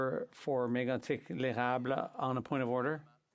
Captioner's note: speaking French